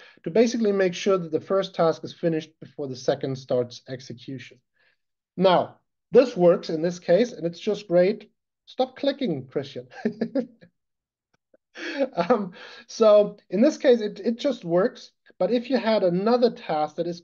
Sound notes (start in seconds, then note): 10.0 laughing